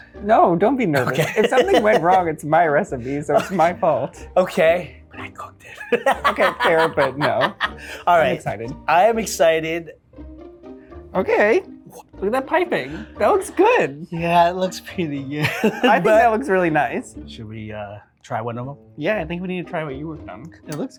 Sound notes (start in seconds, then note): 0.9 laughs; 5.6 laughs; 15.4 laughs